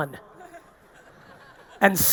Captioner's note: audience laughing